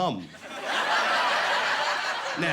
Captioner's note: laughing